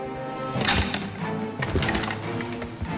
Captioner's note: horns clattering